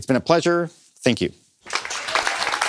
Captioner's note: applause